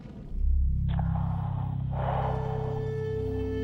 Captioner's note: heavy breathing